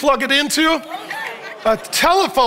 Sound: audience yells and laughs

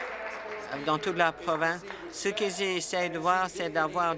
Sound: applause

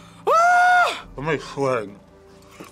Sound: screams

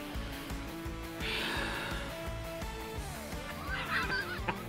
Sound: siiiiiiiiiighhhhhhhhh

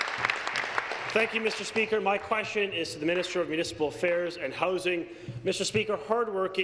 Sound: applause

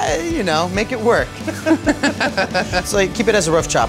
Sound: both laugh

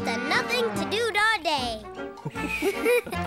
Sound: giggling

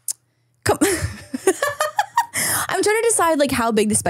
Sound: laughs

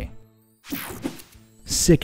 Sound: image whooshing

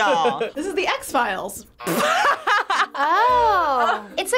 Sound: laughs

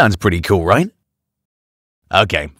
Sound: silence

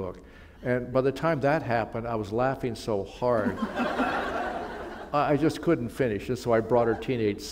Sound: laughter

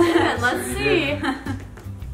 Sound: laughing

